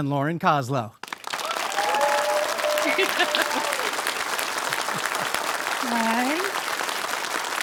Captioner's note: audience applause